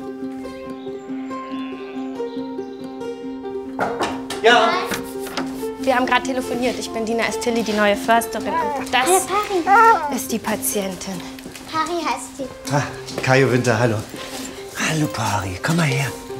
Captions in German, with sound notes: (Friedliche Musik) (Klopfen) Ja? - Herein. Wir haben telefoniert. Ich bin Dina Estili, die neue Försterin. Hey, Pari. - Und das ist die Patientin. Pari heißt sie. Kajo Winter, hallo. Hallo Pari, komm mal her.